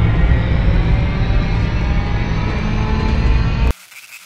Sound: rift Starting Up

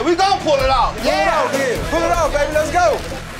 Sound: shouting

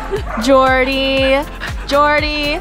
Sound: dog panting; upbeat music

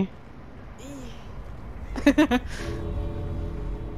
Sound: giggles

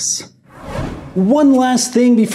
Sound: air whooshing

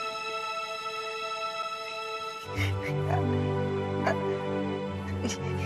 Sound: giggles

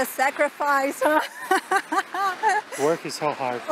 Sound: laughs

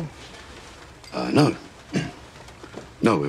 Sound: clears throat

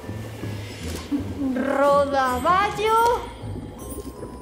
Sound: bells tinkling

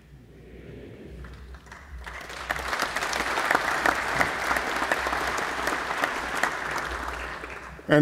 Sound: applause

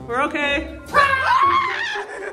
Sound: screaming

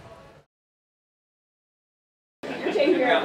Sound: patrons entering building

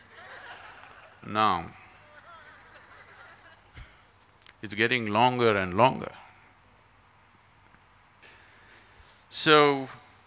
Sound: gestures - Laughter; laughs

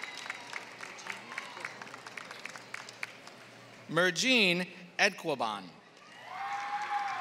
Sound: applause; applause

